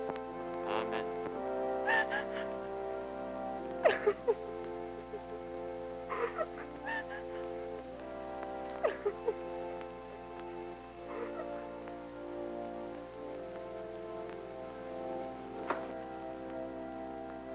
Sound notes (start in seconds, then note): 2.1 Isabella crying; 8.0 melancholic organ music